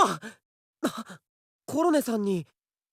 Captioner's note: gasp